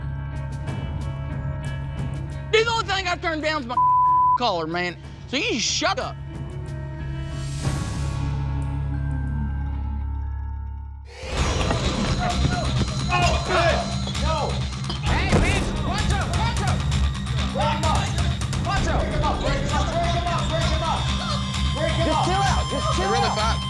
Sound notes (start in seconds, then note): 0.2 tense music; 6.2 tense music; 11.2 fighting, shouting